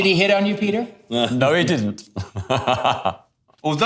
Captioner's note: laughing